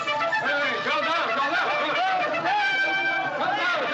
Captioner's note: men Shouting